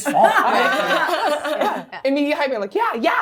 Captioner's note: everyone laughing